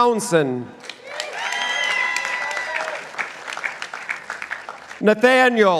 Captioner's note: participants applauding